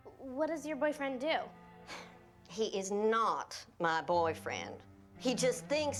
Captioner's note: sighs